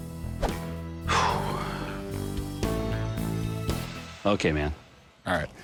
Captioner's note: sighs